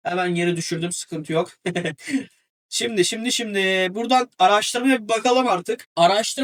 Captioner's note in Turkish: kahkaha